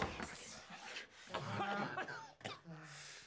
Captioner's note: coughing